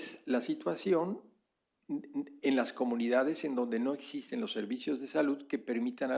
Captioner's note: spanish; spanish